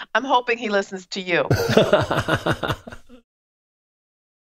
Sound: laughing

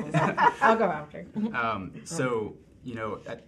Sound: woman laughing

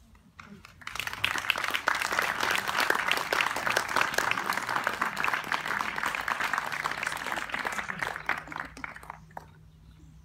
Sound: applause

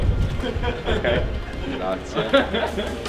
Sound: laugh

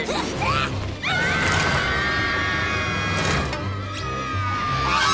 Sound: screaming

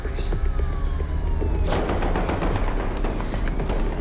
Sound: sirens wailing

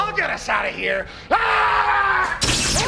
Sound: screaming

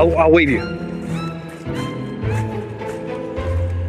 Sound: footsteps; suspenseful plinking

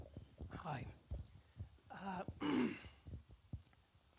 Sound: clears throat

